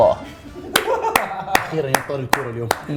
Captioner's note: clapping and laughing